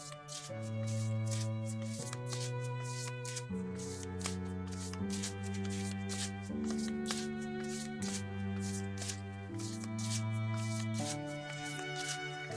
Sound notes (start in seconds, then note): 1.8 card shuffling and music